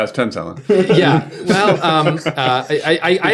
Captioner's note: laughter